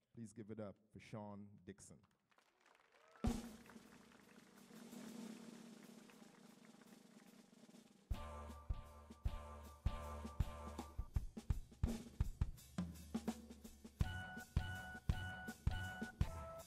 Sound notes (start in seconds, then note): 2.2 audience applauds; 2.7 drum roll